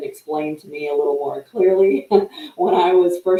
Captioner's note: chuckles